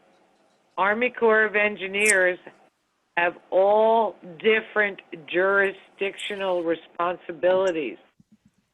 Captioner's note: phone